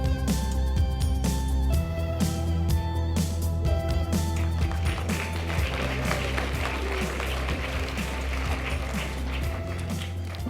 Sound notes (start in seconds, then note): 4.3 audience applause